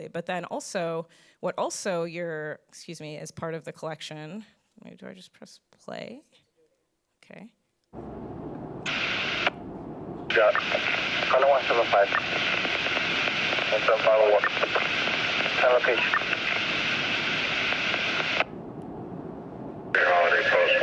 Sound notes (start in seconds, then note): 9.1 radio hisses; 13.6 officers chattering